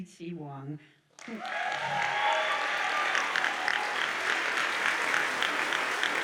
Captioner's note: audience cheers and applauds